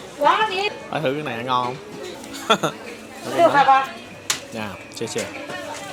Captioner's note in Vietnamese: tiếng cười